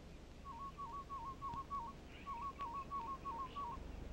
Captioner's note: bird calls